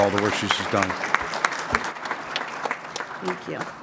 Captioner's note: applause